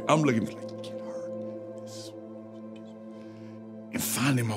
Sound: whispers indistinctly

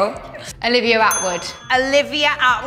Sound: correct bell

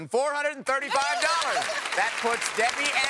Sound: applause

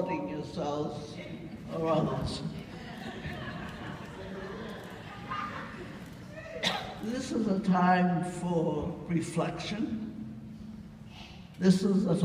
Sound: audience: yeah! laughter

